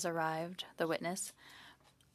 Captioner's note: speaking in French